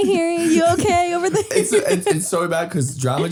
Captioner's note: Harry laughing